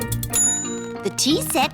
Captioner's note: bell dings